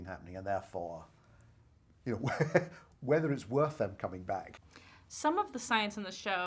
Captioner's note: laughs